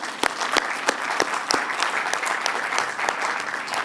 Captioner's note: applause